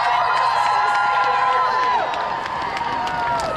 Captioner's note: crowd cheering